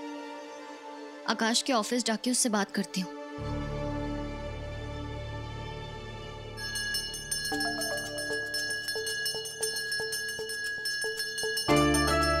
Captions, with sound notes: I'll go to Akash's office and talk to him. [bell rings]